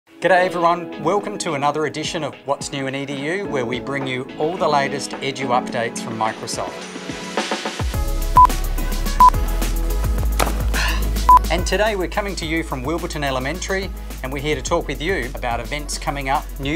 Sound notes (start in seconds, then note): 7.6 playful music; 9.4 sharp beep